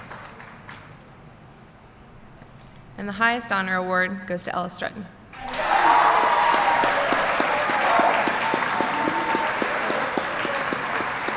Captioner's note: applause